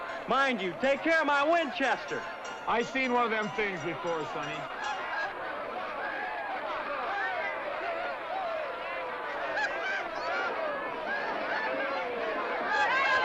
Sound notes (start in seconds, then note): 5.5 jovial crowd commotion; 12.5 women teasing & shouting